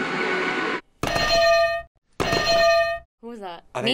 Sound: bells ring

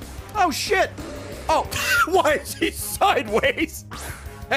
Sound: laughs

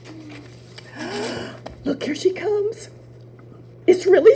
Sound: gasp

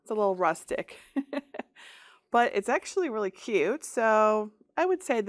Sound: chuckles

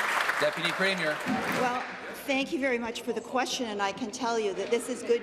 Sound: applause

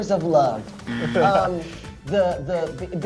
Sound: buzzer

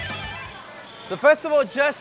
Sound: crowd chattering

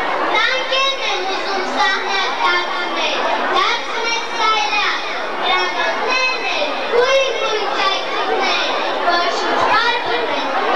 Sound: children reciting some poetry

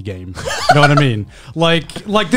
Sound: laughing

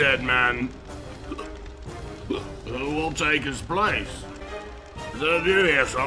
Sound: hic, hic

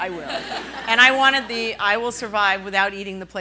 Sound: laughing

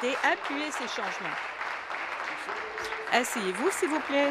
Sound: applause

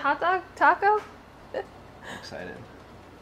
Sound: laughs

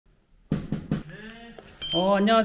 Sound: knock knock knock

